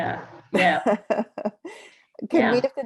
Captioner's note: laughs